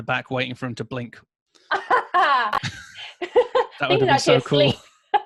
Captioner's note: laughing